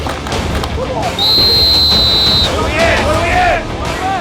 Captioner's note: intense rock music; whistle blowing